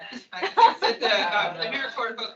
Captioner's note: attendees laughing